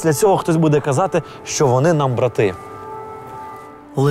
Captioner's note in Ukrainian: звук повітряної тривоги